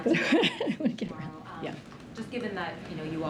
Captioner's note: laughs